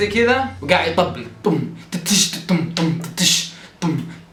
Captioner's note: vocalizes drum beat